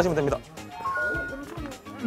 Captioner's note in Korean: 코인 획득 효과음